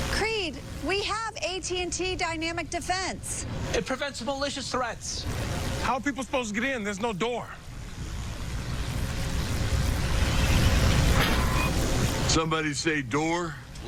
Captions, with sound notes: Creed, we have AT&T Dynamic Defense. It prevents malicious threats. How are people supposed to get in? There's no door! (Wind blowing) Somebody say door?